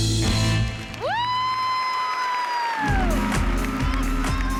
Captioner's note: cheering and applause